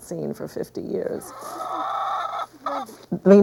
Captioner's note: chicken clucking